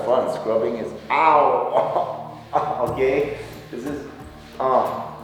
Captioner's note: in pain